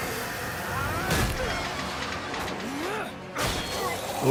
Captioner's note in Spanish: gruñendo